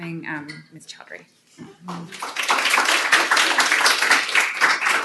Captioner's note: applause